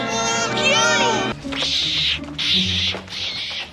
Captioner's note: monkey screeches; monkey screeches louder; monkey screeches from a distance